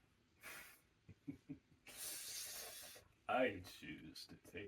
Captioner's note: Silas chuckles